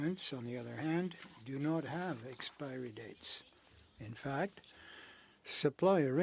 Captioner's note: speaking French